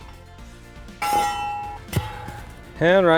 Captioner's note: post pounder clanging; upbeat music